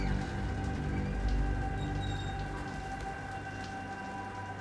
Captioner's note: water running